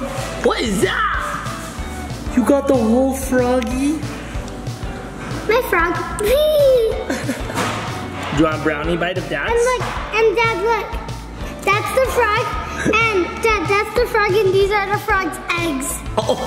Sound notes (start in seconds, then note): 6.8 laughs